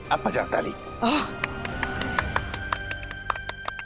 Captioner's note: applause